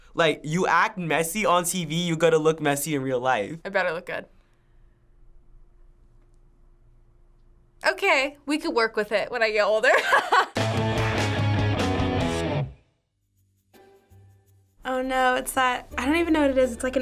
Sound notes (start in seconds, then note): 9.9 laughs; 10.5 punk rock intro